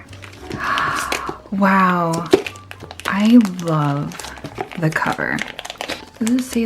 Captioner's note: gasp